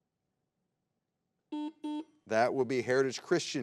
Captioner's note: button blips